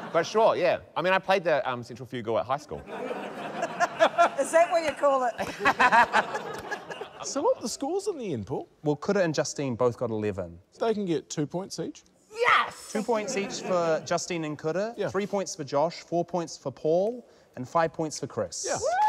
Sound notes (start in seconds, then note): 2.7 laughter; 5.4 laughs